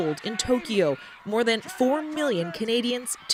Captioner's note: cheers and Applause